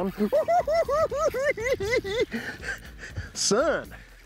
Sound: cackling

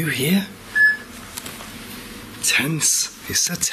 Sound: beeping

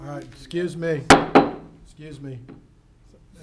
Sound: hits the table

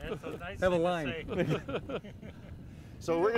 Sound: laughter

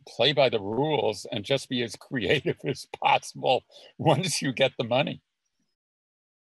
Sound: chuckles

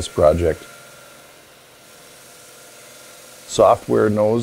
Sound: saw grinding

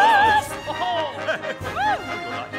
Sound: exclaiming

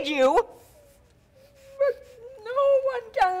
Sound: Sharik softly whimpering

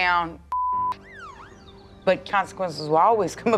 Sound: siren wails

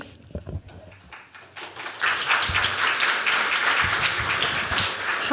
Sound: applause

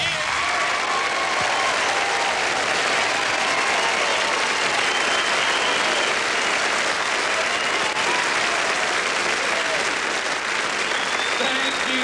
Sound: applause

